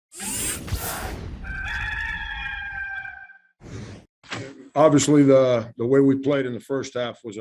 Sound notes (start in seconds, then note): 0.2 logo whooshing; 1.4 cock crowing